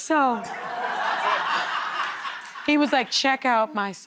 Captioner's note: laughter